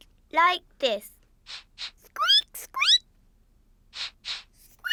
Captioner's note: sniffs and squeaks; both sniff and squeak